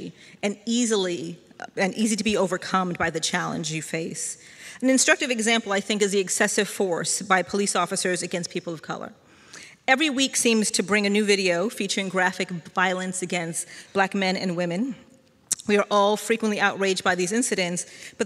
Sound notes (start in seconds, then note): none